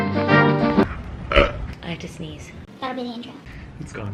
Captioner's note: burp